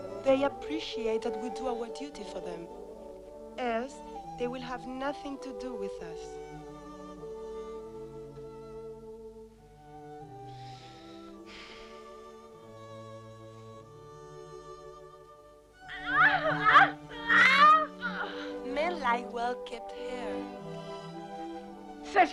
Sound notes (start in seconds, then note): 10.5 Hundra sighs; 16.3 Hundra shouting